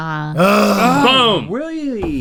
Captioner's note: groans